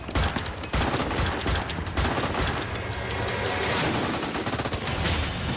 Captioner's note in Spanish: Disparos